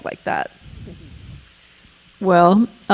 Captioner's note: chuckling